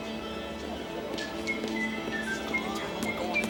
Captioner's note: John whistle jauntily